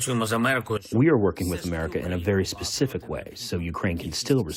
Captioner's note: through translator